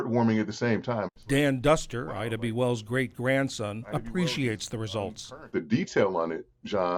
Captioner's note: voice-over